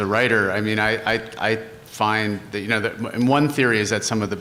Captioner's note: stuttering